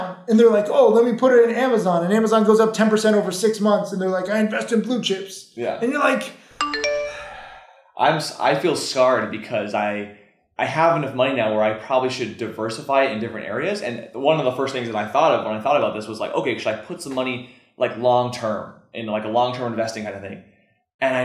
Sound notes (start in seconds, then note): 6.6 phone alert dinging